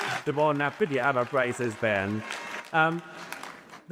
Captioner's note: cheers and applause